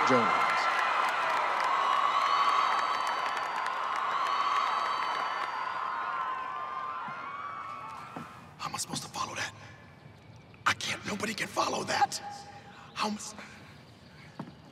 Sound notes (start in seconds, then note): 0.0 moderate applause; 8.9 whispers